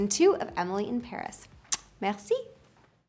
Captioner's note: kiss noise